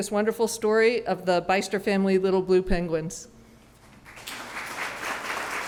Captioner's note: applause